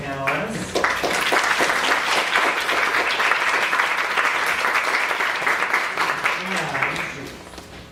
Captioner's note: applause